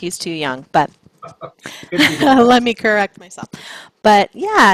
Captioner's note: chuckles